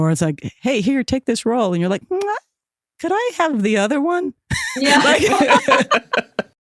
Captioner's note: laughs